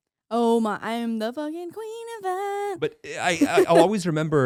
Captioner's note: laughing